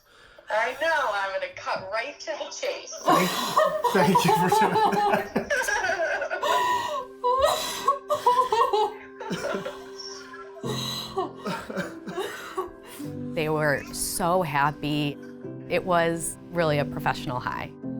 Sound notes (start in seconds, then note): 5.4 all laughing; 7.3 crying